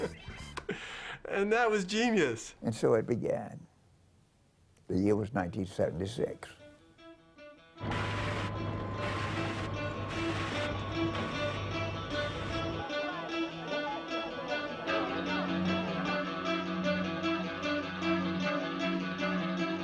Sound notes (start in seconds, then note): 6.7 mechanic clanking; 9.7 building rock music